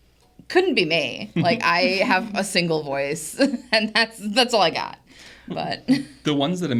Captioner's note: laughs